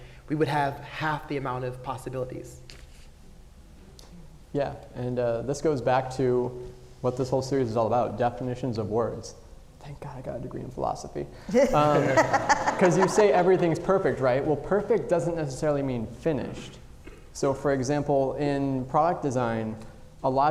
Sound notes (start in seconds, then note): 11.6 audience laughing